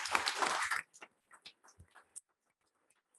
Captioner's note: applause